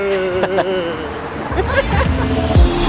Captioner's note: laughter